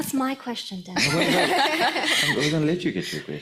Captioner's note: laughs